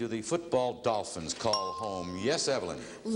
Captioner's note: ringing bell